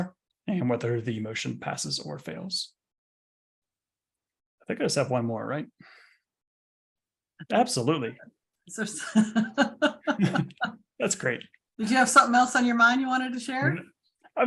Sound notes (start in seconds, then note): 9.1 laughs